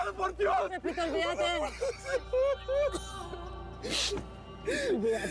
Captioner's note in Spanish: llanto de pepito